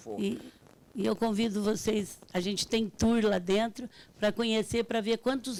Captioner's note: speaking Portuguese